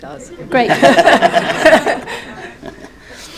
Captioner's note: audience laughs